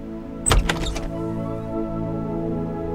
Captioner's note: Door opens